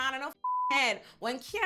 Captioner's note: beep